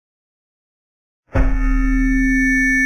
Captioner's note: mic feedback